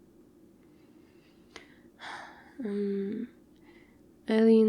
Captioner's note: sighs